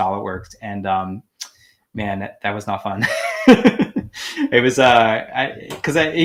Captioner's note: laughing